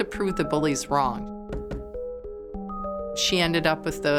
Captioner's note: knocking